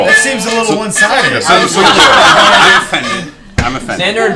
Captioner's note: laughter